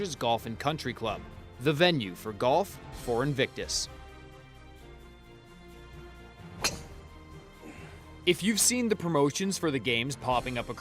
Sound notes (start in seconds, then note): 6.6 whack